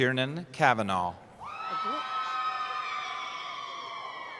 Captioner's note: cheering